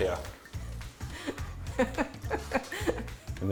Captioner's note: laughter